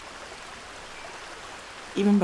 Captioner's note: rushing water